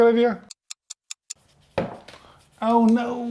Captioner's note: clock ticking